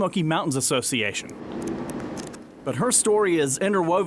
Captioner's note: pages flipping